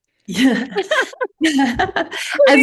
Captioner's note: laughter